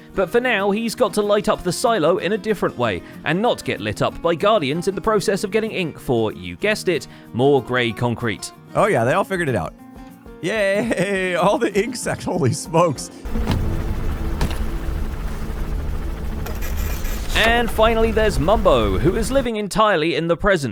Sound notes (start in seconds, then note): 13.2 tense music; 13.3 page prints; 13.4 thump